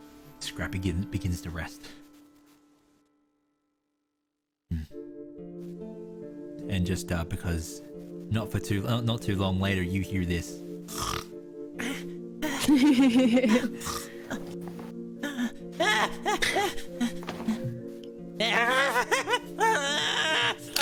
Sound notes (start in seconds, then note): 2.7 music silent; 10.9 snore-snort; 12.4 giggles; 13.8 Scrappy snores